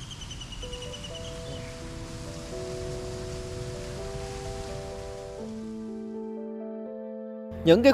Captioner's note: city sound